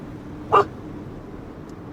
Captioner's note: dog panting; dog barking